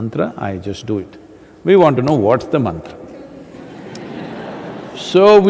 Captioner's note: laughter